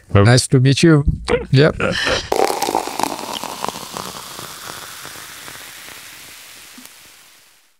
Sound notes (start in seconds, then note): 4.4 hissing